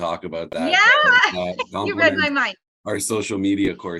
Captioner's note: laughing